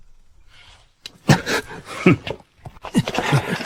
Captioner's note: snort